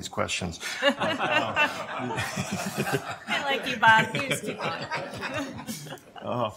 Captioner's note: laughter